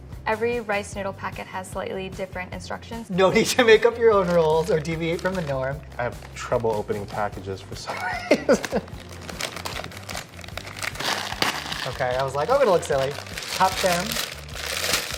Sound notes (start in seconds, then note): 7.8 laughs; 9.4 packages crinkle